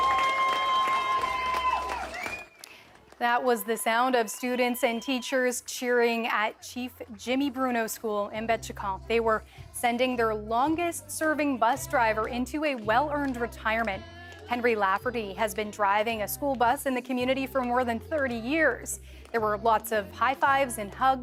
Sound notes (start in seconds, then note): 2.5 cheers and Applause